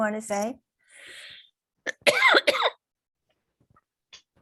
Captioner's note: coughing